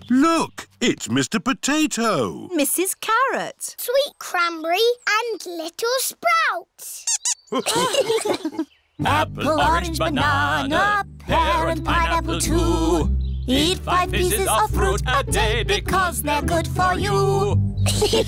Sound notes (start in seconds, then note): 7.0 squeaks; 7.5 laughter